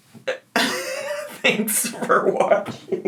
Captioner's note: laughs